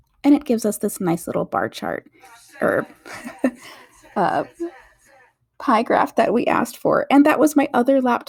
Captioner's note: TV show comes on in the background